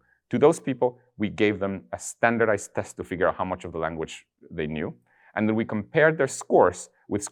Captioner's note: none